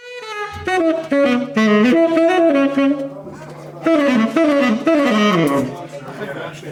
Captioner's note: group chattering